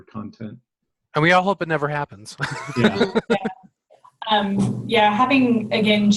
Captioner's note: laughs